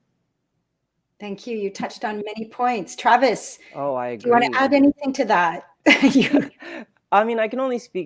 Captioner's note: laughs